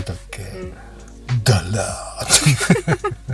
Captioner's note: laughs